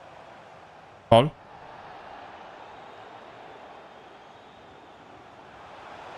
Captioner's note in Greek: χειροκρότημα